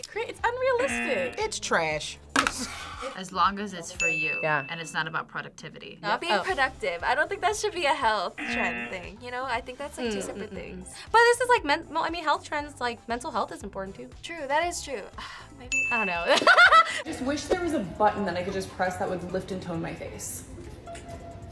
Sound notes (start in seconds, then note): 0.8 laughs; 15.3 sighs; 16.4 laughs